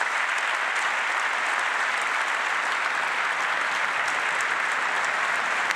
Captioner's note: applause